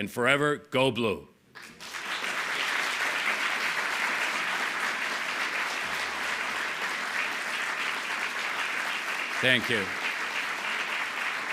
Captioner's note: applause